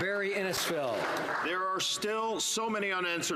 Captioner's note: some Applause